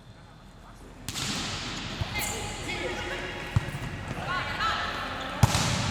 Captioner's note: volleyball smacking